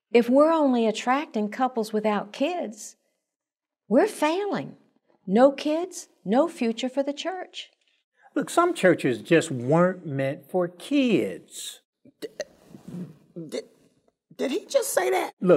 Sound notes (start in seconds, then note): 12.2 stammering